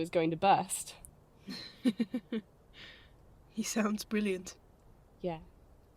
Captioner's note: James laughs